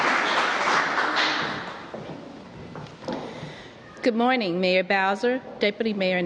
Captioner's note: applause